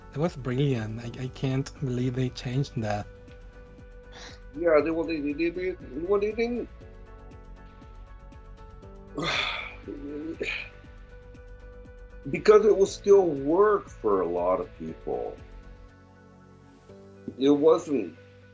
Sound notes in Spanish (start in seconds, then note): 9.1 suspiro